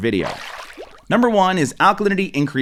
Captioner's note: water splashes